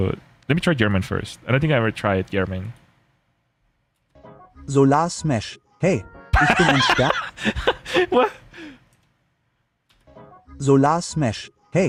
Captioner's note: laughter